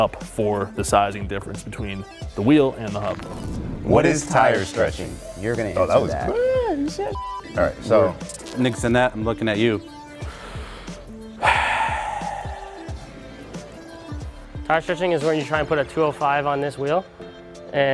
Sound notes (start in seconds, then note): 10.2 deep breaths